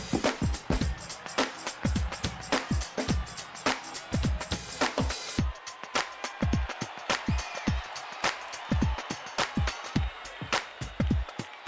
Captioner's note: crowd cheering